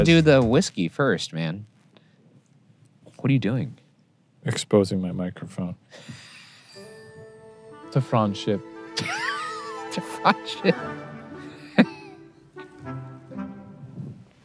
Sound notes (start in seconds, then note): 9.0 laughing; 11.7 gentle music